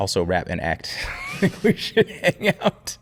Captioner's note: both laughing